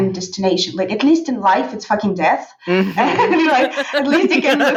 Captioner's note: laughing